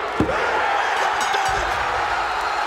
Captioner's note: audience cheering